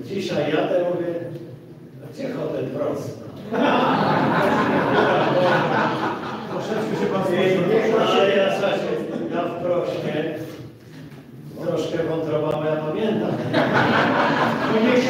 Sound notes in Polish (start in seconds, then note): 3.4 Śmiech z sali